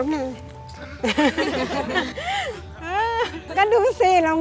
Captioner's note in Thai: เสียงหัวเราะปลาบปลื้ม